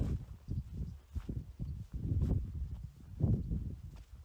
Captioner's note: footsteps